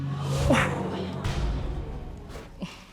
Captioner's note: audience exclaiming